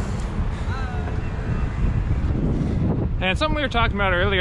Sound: wind gushing; cheering

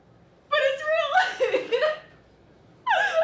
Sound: more laughing

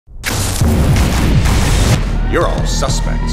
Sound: fire crackling

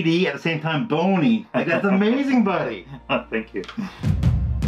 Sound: laughter

